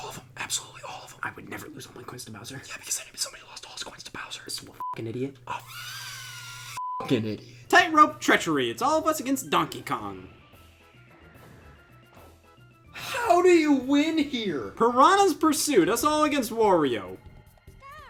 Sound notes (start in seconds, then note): 0.0 whispering; 2.9 whispering; 6.1 beeps